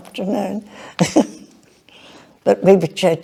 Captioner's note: chuckles